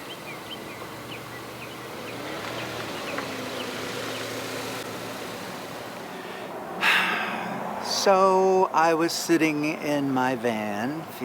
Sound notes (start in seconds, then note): 0.0 birds chirping; 0.0 car engine roaring; 6.8 sighs